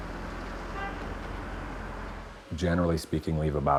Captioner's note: horn honks